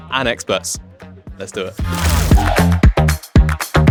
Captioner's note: lively music; screen rustling